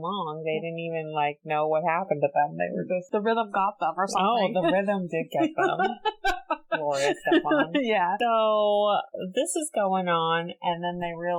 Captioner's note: laughs